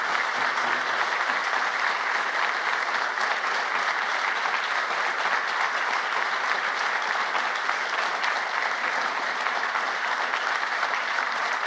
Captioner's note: applause